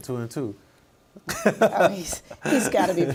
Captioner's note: laughing